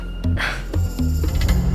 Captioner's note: sighs